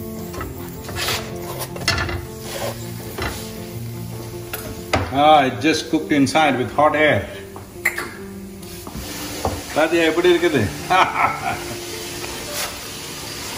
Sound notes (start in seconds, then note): 8.1 laughs; 8.1 speaks in Tamil – not transcribed